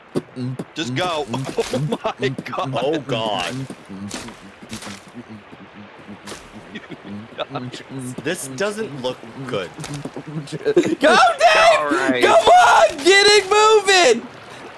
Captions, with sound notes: *beatboxing* Just go! Oh my god! *beatboxing* *beatboxing* This doesn't look good... Go, Dave! Come on, get it moving!